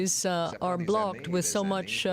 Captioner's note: speaking French